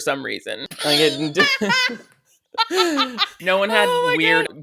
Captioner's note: both laughing